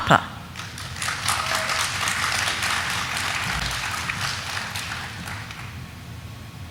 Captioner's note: audience cheering; audience applauding